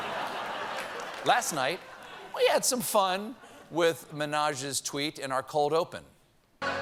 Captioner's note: laughter